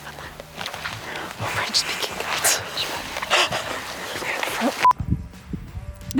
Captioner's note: laughs